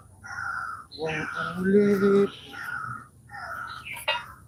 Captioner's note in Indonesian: Suara burung